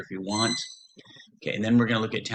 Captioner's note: screeching